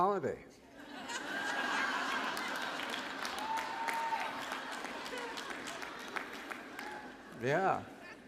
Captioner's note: laughter + applause